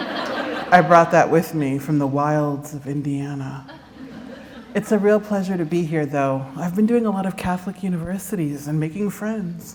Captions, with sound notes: [laughter] I brought that with me from the wilds of Indiana. It's a real pleasure to be here, though. I've been doing a lot of Catholic Universities and making friends.